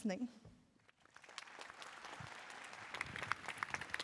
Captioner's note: applause